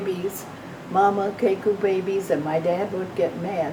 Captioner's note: speaking foreign language